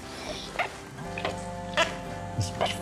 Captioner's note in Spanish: Celular vibra